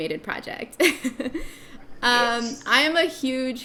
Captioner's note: laughing